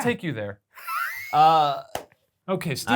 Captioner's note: laughs